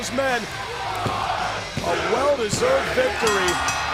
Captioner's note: crowd cheering